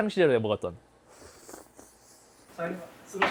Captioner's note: slurp